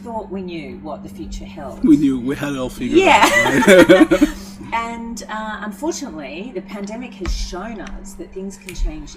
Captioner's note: both laugh